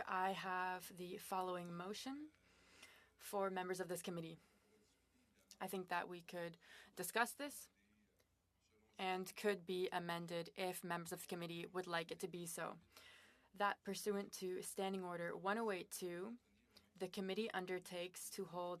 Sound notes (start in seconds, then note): 2.4 speaking French